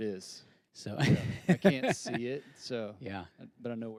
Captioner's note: laughs